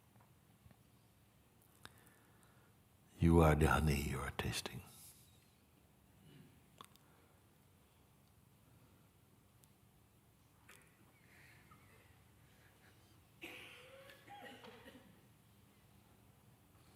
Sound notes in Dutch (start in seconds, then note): 9.7 stilte